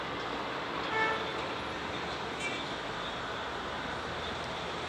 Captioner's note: car horns honking